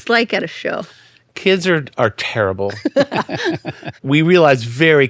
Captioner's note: laughing